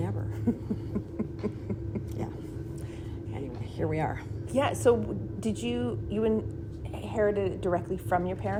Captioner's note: laughing